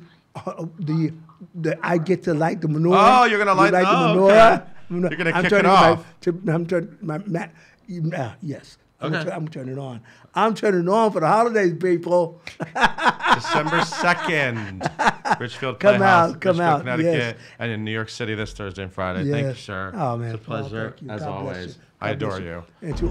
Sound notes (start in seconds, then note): 12.5 laughs